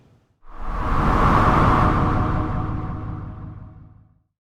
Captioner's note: air whooshing